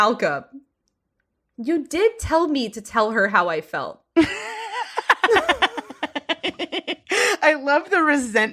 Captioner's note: laughing